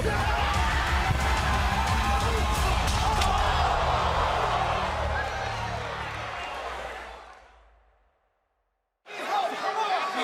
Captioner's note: crowd chatter